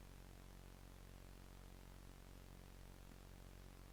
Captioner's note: none